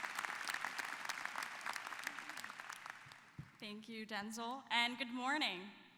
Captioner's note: applause